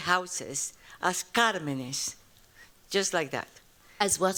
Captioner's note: spanish